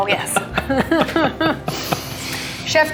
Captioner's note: chuckling